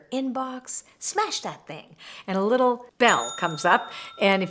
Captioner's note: bell rings